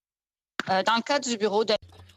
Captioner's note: speaking French